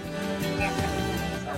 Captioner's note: laughs!